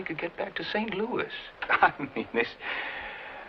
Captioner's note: laughing